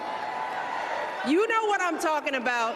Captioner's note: cheering and applause